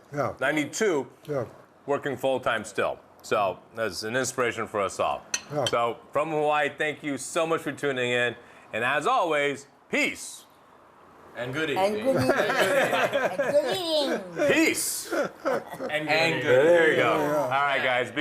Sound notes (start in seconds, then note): 12.1 laughter